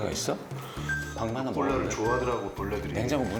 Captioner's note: ding-dong, ding-dong